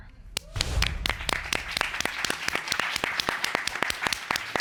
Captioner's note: applause